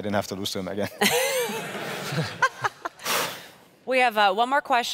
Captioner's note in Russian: смех